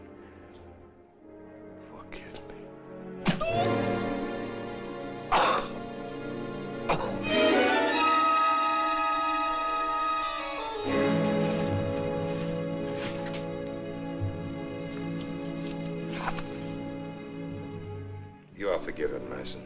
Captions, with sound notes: Forgive me. [Thud] [Gasps] [Coughs] You are forgiven, Meissen.